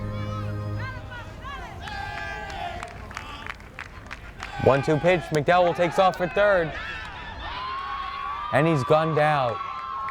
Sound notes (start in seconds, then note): 0.0 grand organ music; 3.3 fans chanting